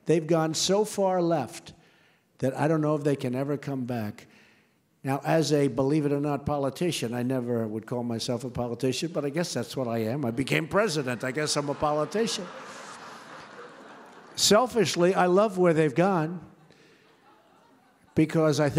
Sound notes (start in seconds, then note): 13.0 laughter